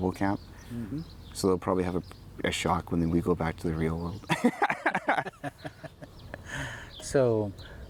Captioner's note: laughs